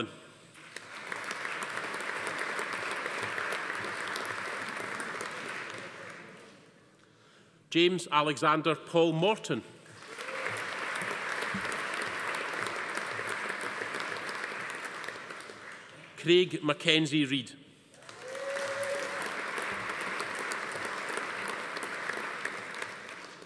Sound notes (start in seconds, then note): 0.5 audience applauding; 9.9 audience applauding; 10.0 attendee cheering; 18.0 audience applauding; 18.0 attendee cheering